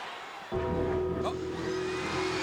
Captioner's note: bell tolls